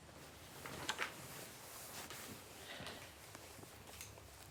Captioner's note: pages turning